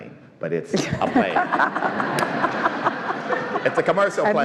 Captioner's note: all laugh